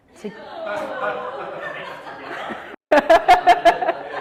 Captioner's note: all laugh